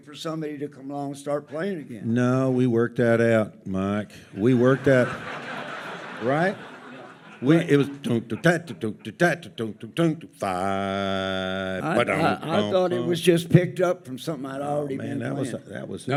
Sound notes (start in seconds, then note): 8.3 humming